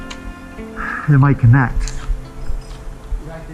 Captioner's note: sighs